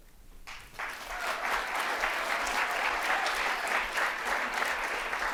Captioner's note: audience applauding